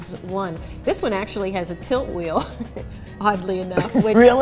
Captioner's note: laughing